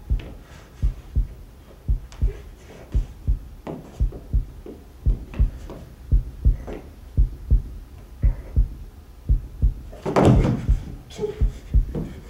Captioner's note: slowly, the sound of a heartbeat is heard and grows louder